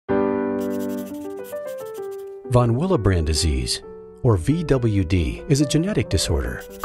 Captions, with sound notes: (soothing piano music) - [Voiceover] Von Willebrand Disease, or VWD, is a genetic disorder,